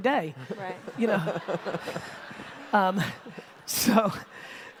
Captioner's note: audience laughter